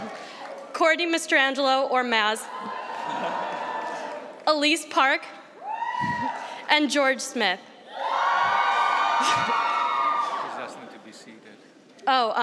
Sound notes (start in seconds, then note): 7.8 cheering